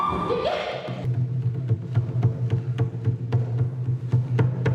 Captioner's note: scream on microphone and drum beats